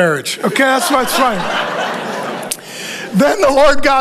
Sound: congregation laughing

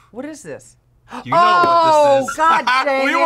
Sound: sighs; gasps

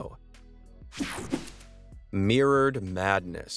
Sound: air whooshing

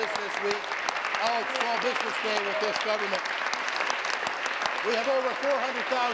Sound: applause

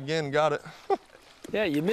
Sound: laughter

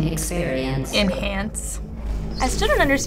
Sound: sarcastically

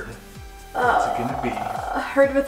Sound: groans

